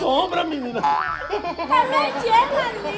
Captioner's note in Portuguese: Som de mola